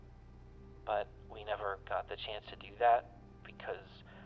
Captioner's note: none